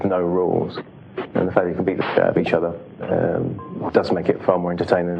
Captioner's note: static!